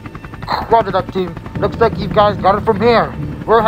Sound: radio Voice

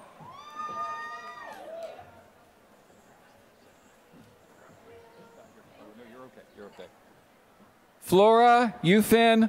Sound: applause

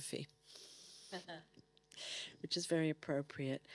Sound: chuckling

